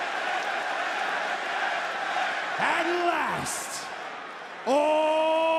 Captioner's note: crowd cheers; crowd chants "trick"